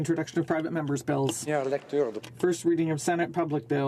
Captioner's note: speaking French